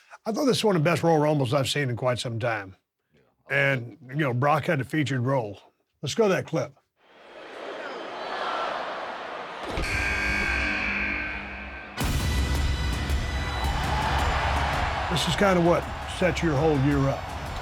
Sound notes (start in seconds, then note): 7.2 crowd chattering; 9.8 buzzer buzzes; 12.4 dramatic combative music; 14.2 crowd cheering